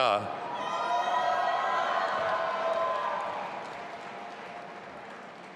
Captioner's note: audience applauding and cheering